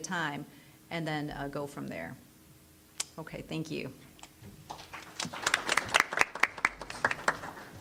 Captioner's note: applause